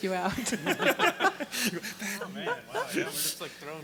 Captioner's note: laughing